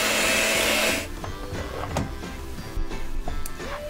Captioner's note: mixer whirs